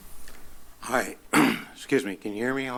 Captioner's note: clears throat